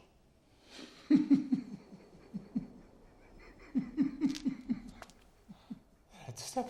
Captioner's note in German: Lacht